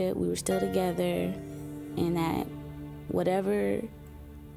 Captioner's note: none